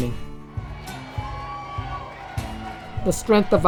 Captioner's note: crowd cheering